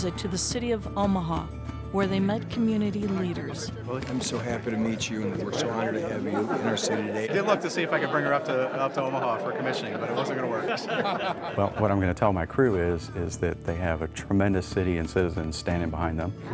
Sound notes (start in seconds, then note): 10.9 laughing